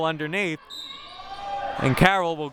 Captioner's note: whistle blowing